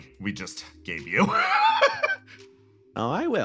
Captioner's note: laugh